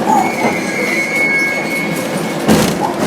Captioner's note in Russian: открытие дверей